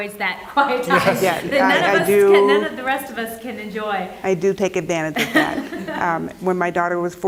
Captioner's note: laugh